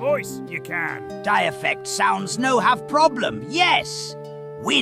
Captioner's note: excited